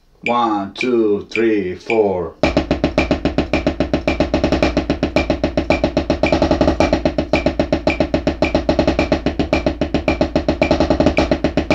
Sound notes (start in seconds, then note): 0.0 metronome ticking; 2.3 drum beating; 2.3 metronome continues ticking